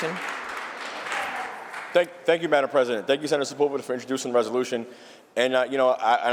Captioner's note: applause